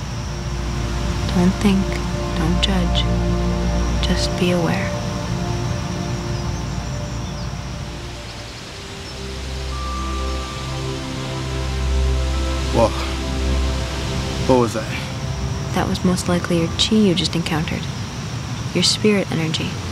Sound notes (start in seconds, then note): 0.3 light dramatic music; 8.1 leaves rustling